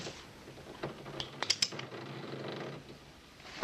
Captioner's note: gun hammer cocks